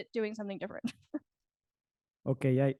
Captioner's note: chuckles